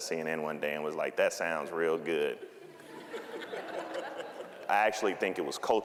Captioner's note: audience laughing